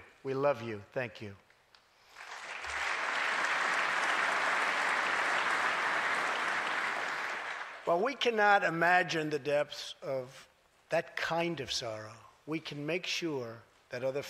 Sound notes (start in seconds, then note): 2.0 applause